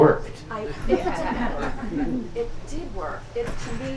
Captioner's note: audience laughs